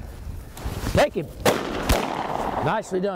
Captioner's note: gunshots firing